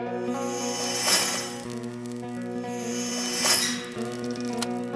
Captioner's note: whirring whizzing past